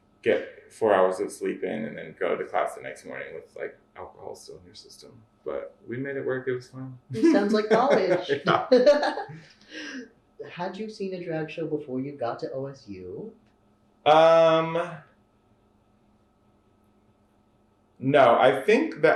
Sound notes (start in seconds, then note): 7.1 laughter